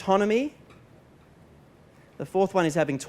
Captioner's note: pause